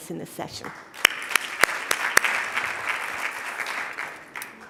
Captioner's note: audience applauding